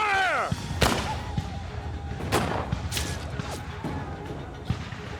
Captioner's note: gunfire